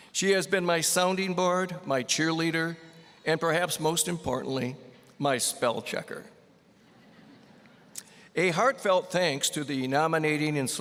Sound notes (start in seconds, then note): 6.8 audience laughing